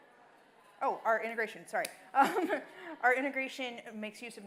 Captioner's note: laughing